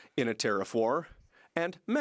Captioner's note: speaking French